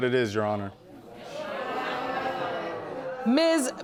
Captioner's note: audience exclaiming